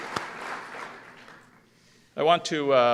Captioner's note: applause